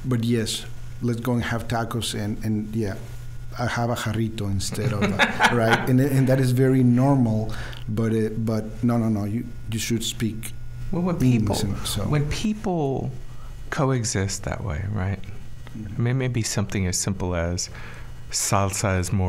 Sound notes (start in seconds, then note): 4.7 laughing